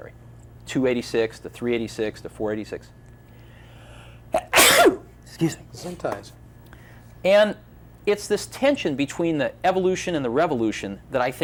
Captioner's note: sneezes